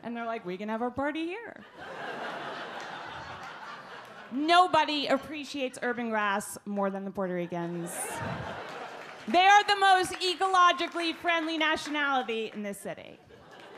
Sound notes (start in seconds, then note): 7.8 audience laugh